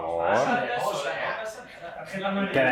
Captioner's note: laughs